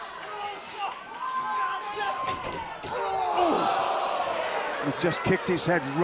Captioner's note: crowd cheering